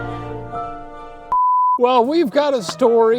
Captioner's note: dramatic music; beep